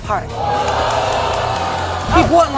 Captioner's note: audience exclaims